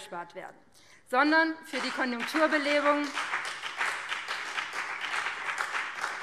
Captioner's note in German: Beifall BÜNDNIS 90/DIE GRÜNEN und CDU